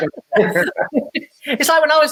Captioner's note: laughing